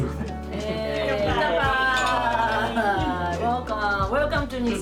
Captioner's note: cheers